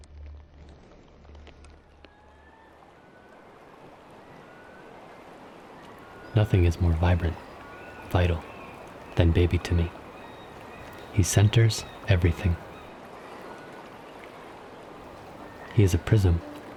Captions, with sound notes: [gulls cawing] [water trickling] Nothing is more vibrant, vital, than baby to me. He centers everything. He's a prism.